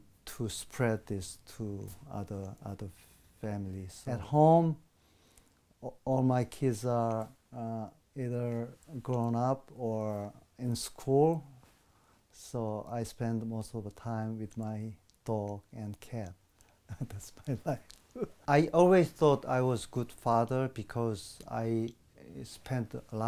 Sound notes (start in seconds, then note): 16.9 laughs